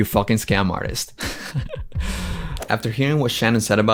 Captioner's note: laughs